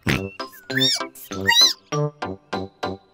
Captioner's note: squeaks; oinks